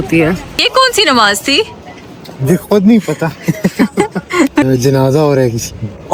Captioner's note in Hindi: हंसी